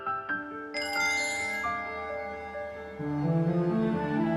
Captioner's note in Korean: 종소리